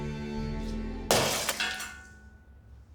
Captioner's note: clanging